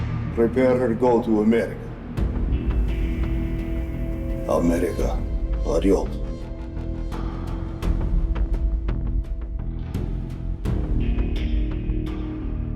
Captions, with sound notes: Prepare her to go to America. America. (speaking in foreign language) (slow music continues)